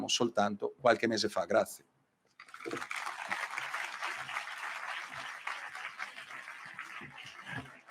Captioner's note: applausi